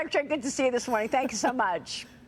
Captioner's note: laughter